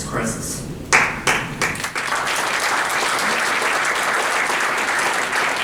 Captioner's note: applause